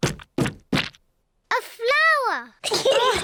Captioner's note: giggles; all laugh